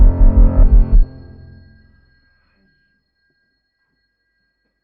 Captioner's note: heart beat and background music suddenly stop; silence